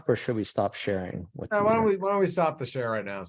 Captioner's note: faintly speaking